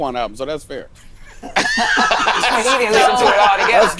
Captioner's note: all laugh